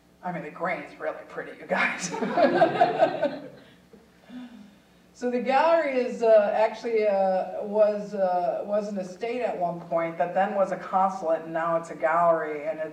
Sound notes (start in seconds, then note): 2.1 audience chuckling